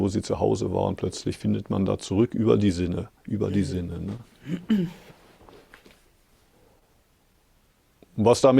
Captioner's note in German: räuspern